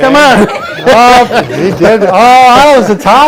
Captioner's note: laughing